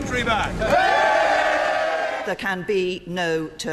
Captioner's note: cheering